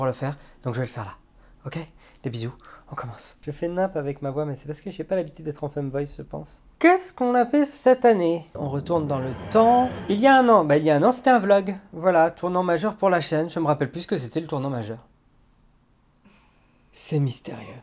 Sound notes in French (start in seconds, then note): 11.6 bruit de TARDIS